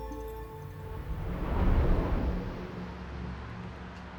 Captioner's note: distant traffic